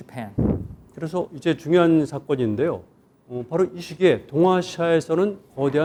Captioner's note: speaking in Korean